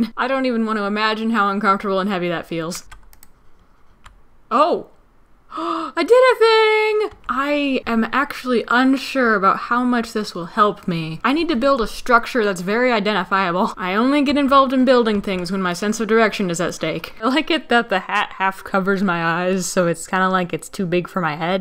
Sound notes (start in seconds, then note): 5.5 gasp